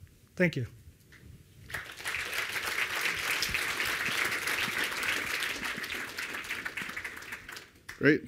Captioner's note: applause